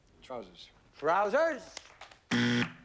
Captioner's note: buzzer